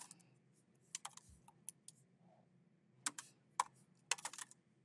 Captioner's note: keyboard clacking continues